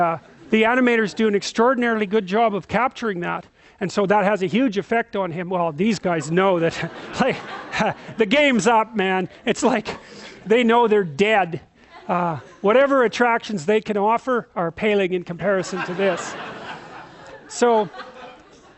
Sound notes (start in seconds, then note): 6.1 laughing